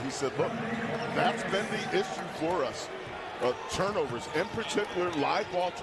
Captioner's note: cheering and applause